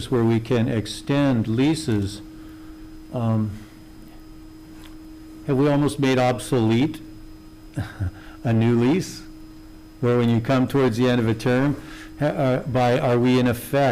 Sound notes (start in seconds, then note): 7.7 he chuckles